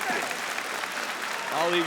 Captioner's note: audience applauding